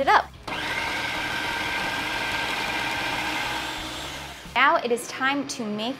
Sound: blender machine noises

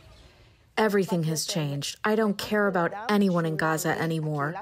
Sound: through translator

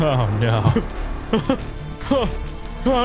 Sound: laughs

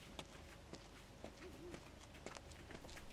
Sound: owl hoots

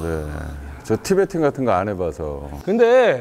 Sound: worried

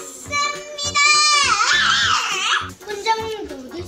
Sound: chicken Argh!

